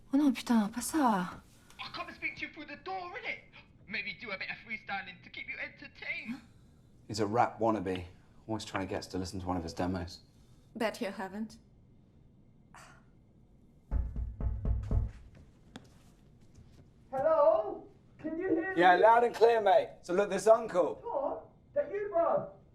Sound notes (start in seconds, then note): 0.1 cursing in French; 12.5 scoffing; 13.8 knocking